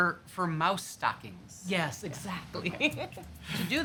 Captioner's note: laughs